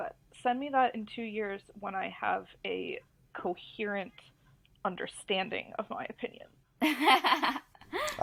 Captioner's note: laughs